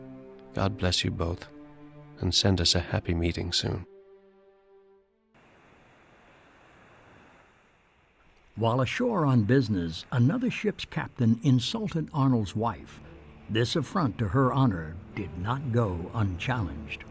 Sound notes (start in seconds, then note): 5.1 shore sounds